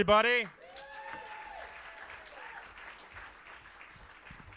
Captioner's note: audience applauds